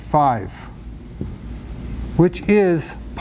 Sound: marker squeaks

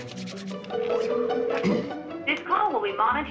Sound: phone dialing; ringing

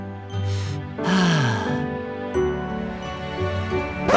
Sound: huge sigh

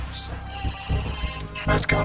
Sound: phone rings

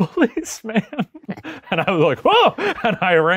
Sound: laughing

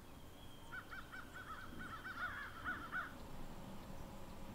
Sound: birds chirping

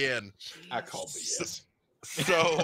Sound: laughs

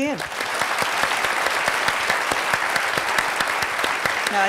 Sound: audience applauds

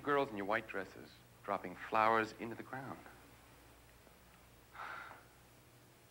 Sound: sighs

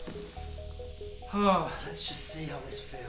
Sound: host sighs

